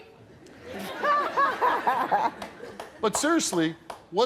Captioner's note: laughing